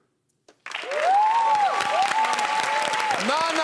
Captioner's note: cheers and applause